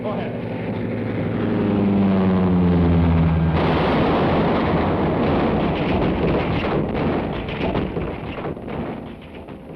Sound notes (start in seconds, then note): 1.5 plane roaring; 3.8 bomb blasts